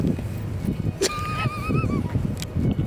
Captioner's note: laughing